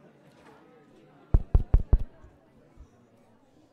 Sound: thumping on mic

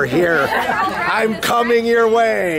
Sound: laughs

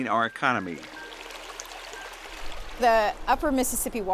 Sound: sound of water over rocks

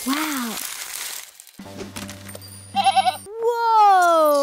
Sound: bleating

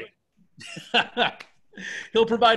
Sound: laughs

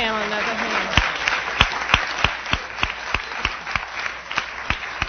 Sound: applause

